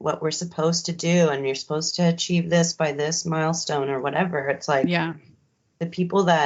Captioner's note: none